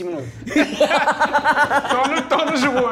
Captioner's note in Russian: смех